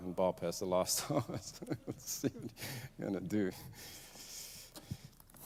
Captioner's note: laughs